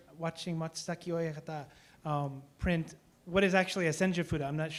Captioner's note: speaking japanese